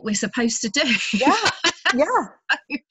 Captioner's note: laughs